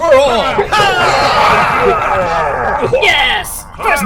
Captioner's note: Klingon cheers